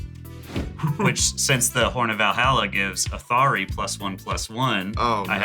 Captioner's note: laughs